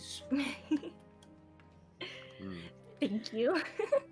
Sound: chuckling

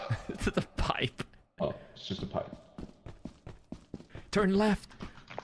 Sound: laughs

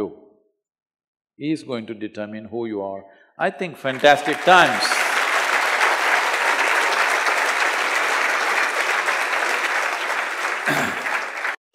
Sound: applause

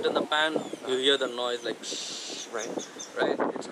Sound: makes sizzle noise

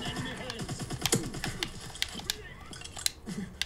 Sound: game shooting

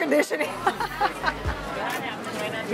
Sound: laughs

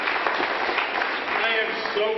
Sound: applause

